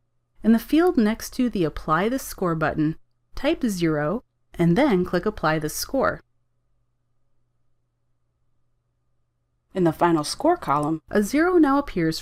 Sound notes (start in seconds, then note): 6.3 silence